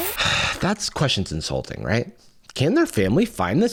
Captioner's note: sighs